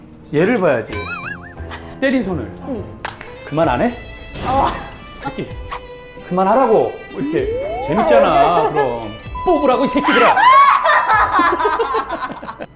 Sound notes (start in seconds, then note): 3.0 slap!; 5.6 swoosh